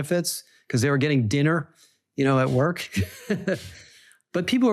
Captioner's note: laughs